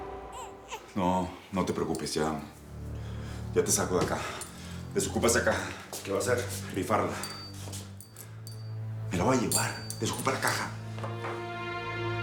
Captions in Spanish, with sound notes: [Llanto del bebé] >>NO, NO TE PREOCUPES YA... YA TE SACO DE ACÁ. DESOCUPA ESA CAJA. >>¿QUÉ VA A HACER? >>RIFARLA. ME LA VOY A LLEVAR, DESOCUPA LA CAJA.